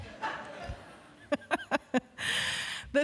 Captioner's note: laughter